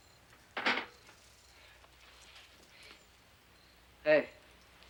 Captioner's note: metal clanks